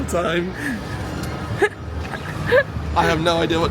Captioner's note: laughing